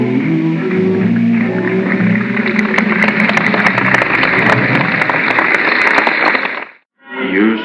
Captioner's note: applause